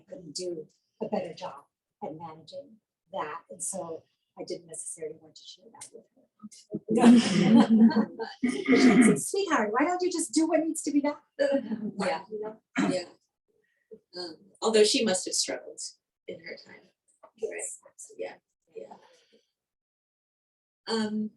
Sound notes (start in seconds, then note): 6.8 laughing